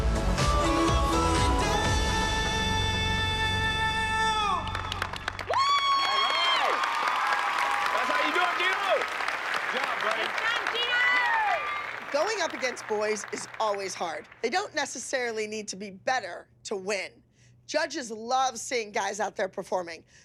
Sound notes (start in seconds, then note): 5.0 applause